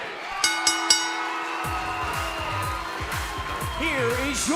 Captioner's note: bell ringing